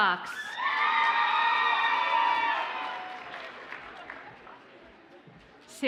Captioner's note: audience cheers and applauds